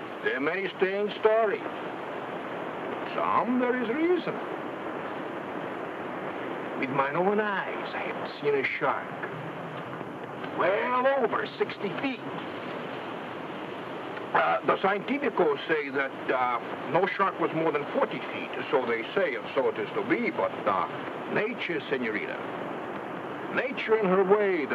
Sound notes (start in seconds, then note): 14.8 speaks in foreign language